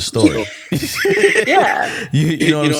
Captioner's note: laughing